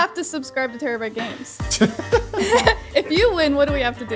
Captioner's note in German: Gelächter